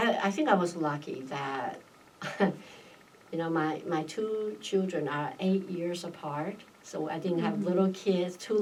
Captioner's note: laughs